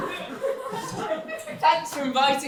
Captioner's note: audience reactions – cheering, laughter and boos